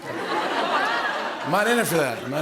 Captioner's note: laughter